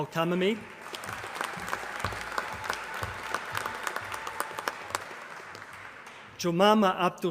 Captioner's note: applause